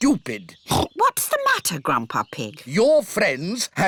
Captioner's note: oinks